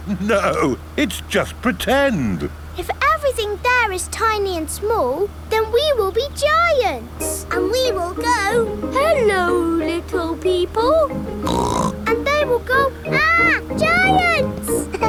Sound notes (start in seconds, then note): 11.4 snorts